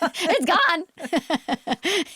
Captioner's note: laughs